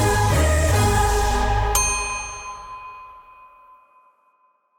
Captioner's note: bell dings